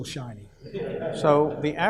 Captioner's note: audience laughs